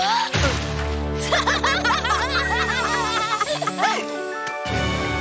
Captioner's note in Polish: śmieją się